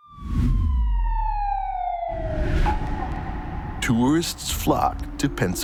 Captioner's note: siren wailing; colored bars whooshing